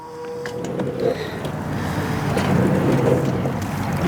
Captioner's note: cable whooshing